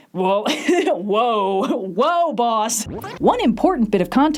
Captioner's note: laughs; static